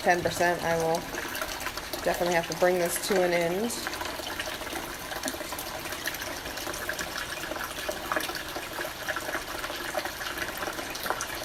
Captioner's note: gurgling of tank